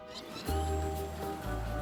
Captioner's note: chittering